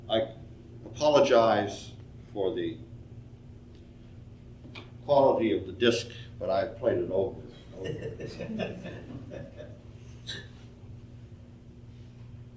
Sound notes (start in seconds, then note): 7.6 audience laughing